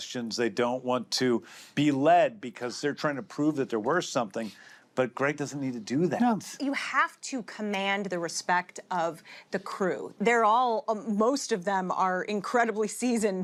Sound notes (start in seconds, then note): none